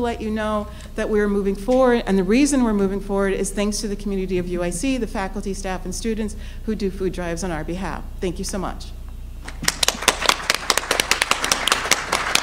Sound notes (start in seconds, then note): 9.5 applause